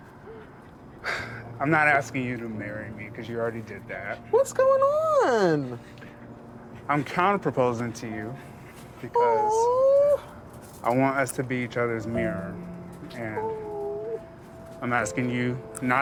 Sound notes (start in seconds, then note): 1.0 sighs